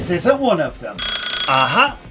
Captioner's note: doorbell